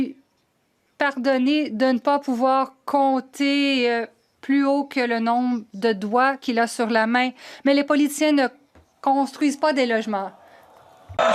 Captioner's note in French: voix de l'interprète